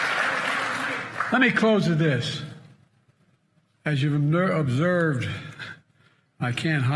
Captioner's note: cheers and applause